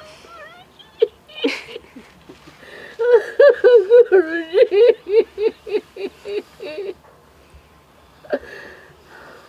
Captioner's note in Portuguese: soluços